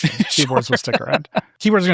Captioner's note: laughing